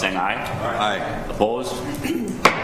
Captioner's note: multiple Voices